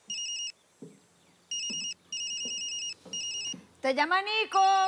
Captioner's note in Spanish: Suena el celular